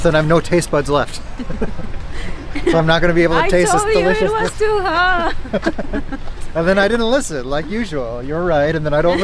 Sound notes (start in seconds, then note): 5.9 both laugh